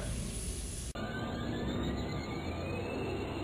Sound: Airteartia taking off

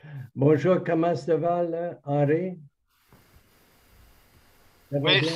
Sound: speaking in foreign language

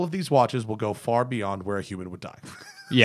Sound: laughter

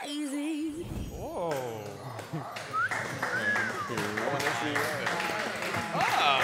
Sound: clapping

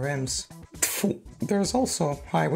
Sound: spits

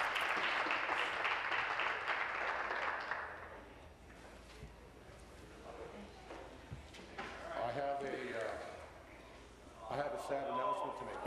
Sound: applause

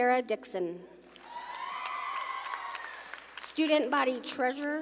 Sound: audience cheering

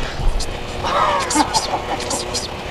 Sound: laughs

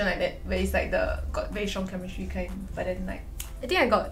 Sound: snap finger

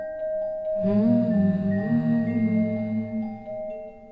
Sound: humming

